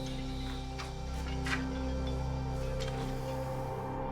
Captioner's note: wind howling